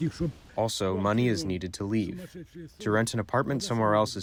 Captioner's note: through translator